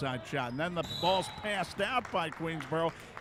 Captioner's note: referee whistling